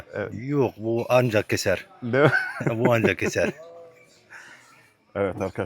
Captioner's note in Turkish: kahkaha